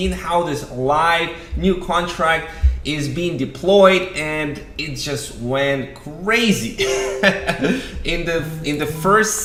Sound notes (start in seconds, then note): 6.8 laughter